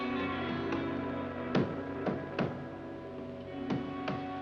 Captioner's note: hammering